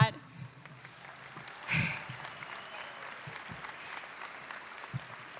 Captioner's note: audience applauding